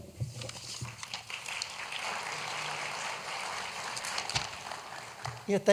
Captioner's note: applause